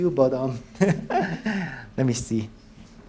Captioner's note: laughs